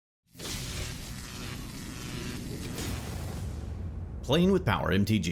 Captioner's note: electricity Buzzing